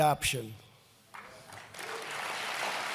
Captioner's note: applause